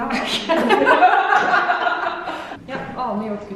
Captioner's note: haha